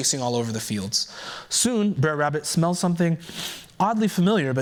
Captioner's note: sniffs